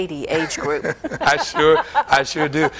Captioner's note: laughter